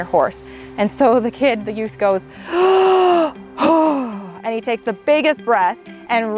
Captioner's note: large inhale and exhale